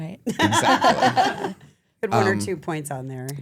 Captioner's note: laugh